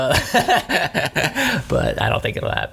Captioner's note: laughs